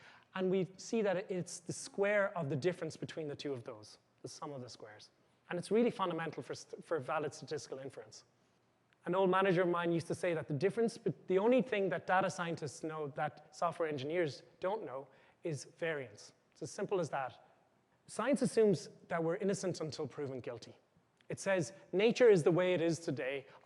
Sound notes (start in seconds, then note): none